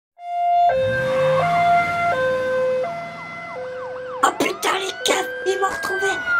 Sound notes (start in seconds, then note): 0.2 police alarms